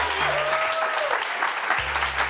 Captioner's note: cheers and applause